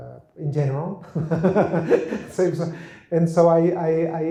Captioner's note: laughs